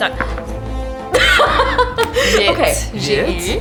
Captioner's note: laughter